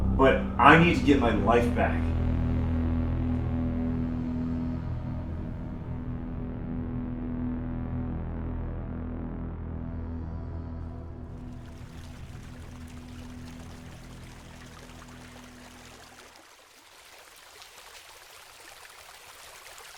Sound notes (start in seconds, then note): 2.0 pensive music; 11.4 water splashing